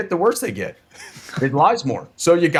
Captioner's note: laughing